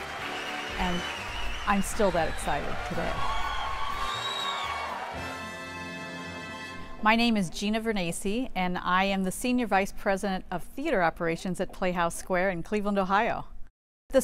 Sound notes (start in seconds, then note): 3.7 cheers and applause